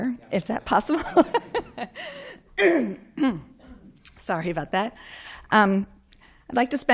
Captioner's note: laughter